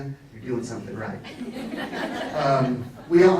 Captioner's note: laughs